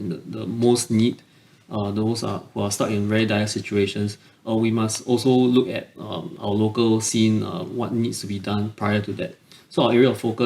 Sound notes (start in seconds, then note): none